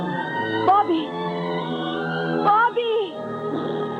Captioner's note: blows raspberry